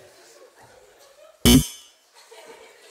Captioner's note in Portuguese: campainha